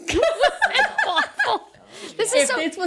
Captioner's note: laughing